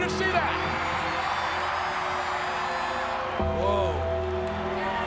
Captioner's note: crowd cheering